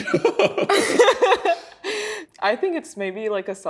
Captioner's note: both laughing